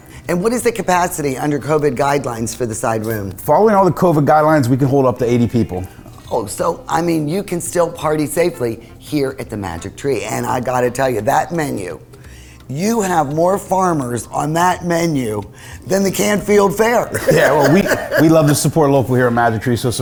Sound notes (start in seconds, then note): 17.0 laughs